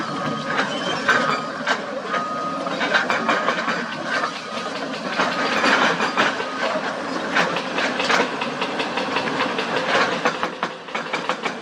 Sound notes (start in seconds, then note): 4.4 excavator Rumble